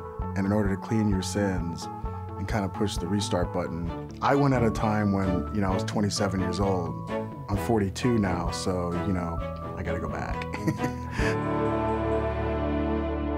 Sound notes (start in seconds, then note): 10.6 laughs